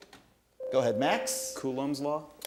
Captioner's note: ding